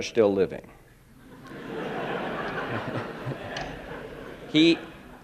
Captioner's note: laughter